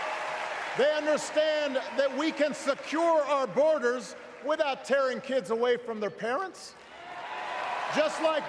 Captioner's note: cheers